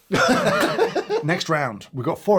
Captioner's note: laughs